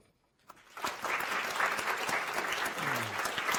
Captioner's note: applause